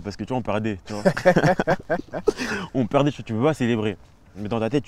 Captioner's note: laughs